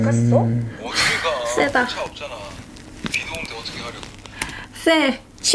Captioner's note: sigh